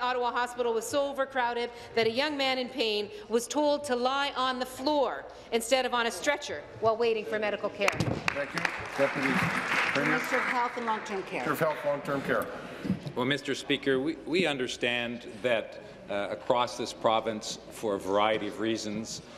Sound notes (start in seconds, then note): 11.7 applause